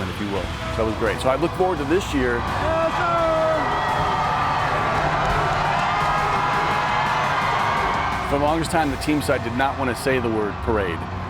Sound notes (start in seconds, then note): 3.7 crowd swells